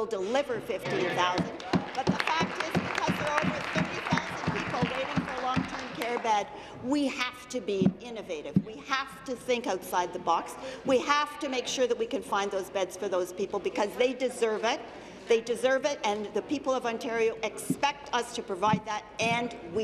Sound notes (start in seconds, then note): 6.3 applause